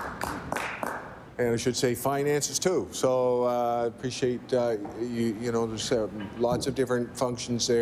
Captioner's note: applause